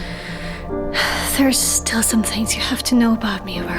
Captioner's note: sighs